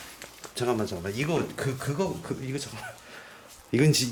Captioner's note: began to stutter